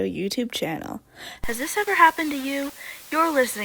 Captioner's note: radio host voice